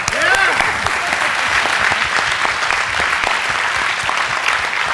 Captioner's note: applause